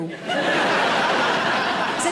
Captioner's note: audience laughing